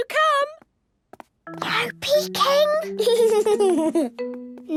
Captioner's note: whispering; Danny giggling